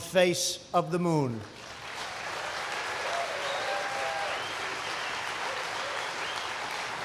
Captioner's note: applause